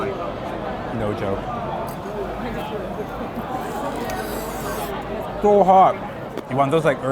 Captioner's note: slurping